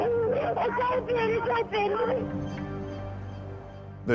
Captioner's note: on phone